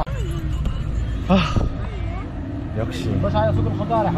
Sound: sigh

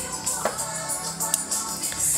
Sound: finger snaps

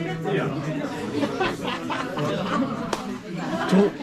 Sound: laughs

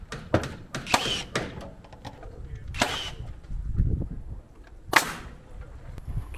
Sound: hammer banging; machine drilling

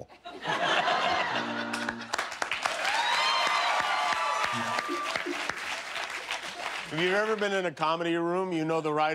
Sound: laughter; cheers and applause

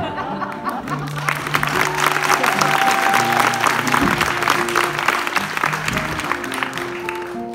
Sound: applause

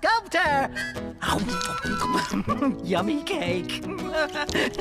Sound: slurp!

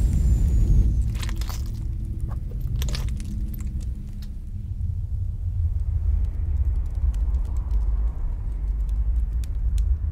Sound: loud footsteps

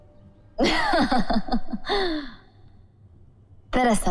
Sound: laughs

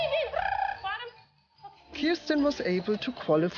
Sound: trills

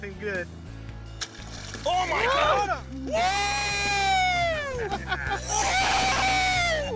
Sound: laughing

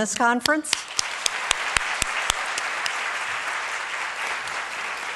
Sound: audience applauds

